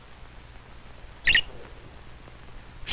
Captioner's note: chirping